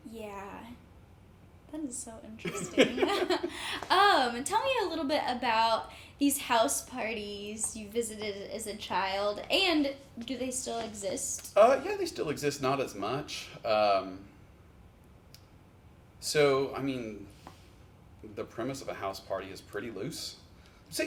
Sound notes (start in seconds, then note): 2.4 chuckle